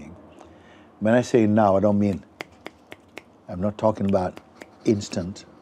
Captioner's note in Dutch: vingerknippen